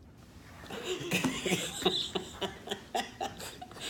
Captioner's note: laughter